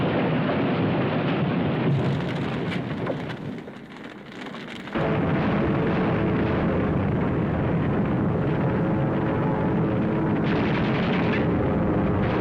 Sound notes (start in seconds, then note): 4.9 explosions